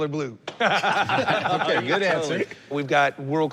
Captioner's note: laughter